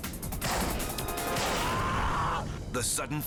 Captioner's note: thudding